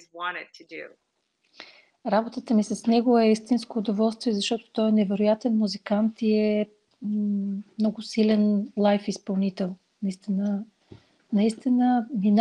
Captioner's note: foreign Language followed by English Interpreter